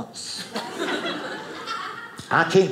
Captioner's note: audience laughing